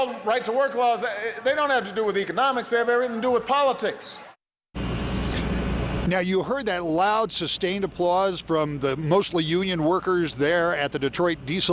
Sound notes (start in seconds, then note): 0.0 cheering